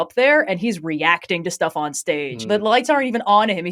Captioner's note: laughing